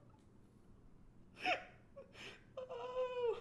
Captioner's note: laughs